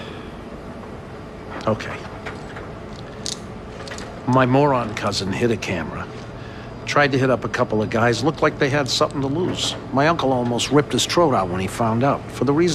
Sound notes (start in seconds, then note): none